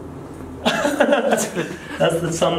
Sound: laughing

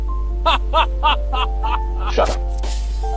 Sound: awkward Laughter

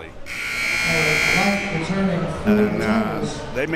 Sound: buzzer ringing

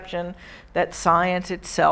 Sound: none

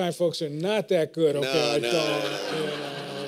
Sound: laughter

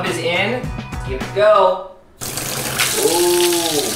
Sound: water dripping

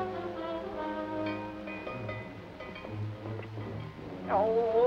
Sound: bell dinging

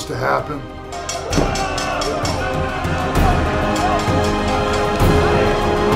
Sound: bell rings; audience shouting

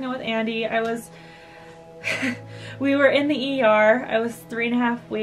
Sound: laughs

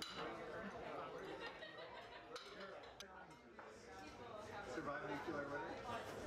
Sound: dishes clanking and background chatter

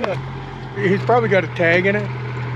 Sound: laughing

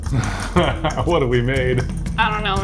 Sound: low music; chuckling

